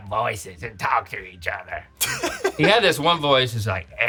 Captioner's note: funny voice; laughs